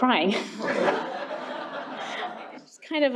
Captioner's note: laughter